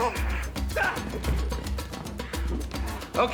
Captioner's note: grunting